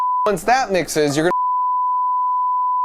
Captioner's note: beep